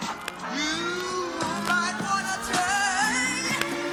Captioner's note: distant spray can noise somewhere in Southern Finland